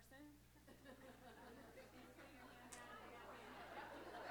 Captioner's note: laughter